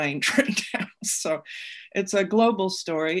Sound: laughs

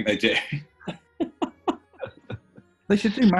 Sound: laughing

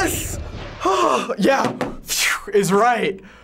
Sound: crash; relieved sigh

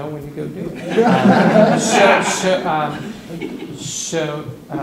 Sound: laughter

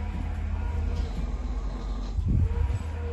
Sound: snore

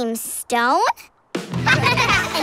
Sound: laughing

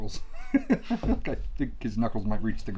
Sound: chuckles

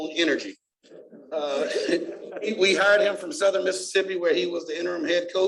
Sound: laughter

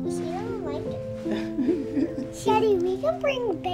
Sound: laughing

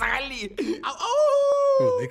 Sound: laughs; imitates howling

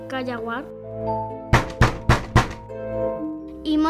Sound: knocks on the door

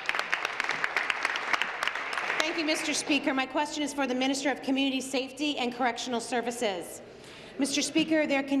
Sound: applause

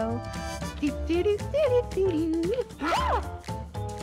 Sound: Red hums; Red screams

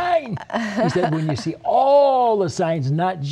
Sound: laughter

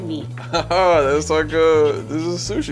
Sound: laughs

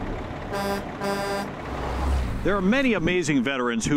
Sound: truck horn

